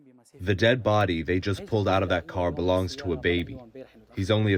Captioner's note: through translator